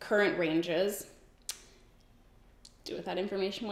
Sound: sucks teeth

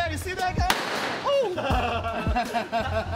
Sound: gun shot blasts; group laughs

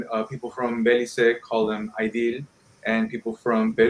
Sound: speaking in foreign language

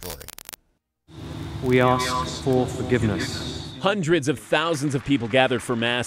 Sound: through translator

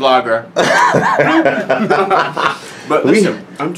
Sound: laughs

